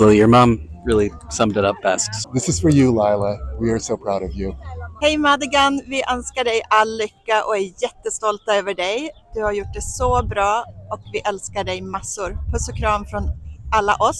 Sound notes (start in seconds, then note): 5.0 in Swedish